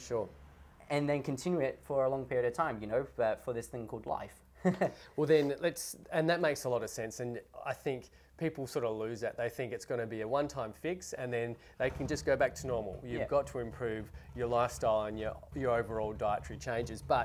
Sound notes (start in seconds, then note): 4.6 laughs